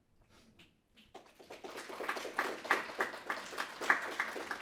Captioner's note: audience clapping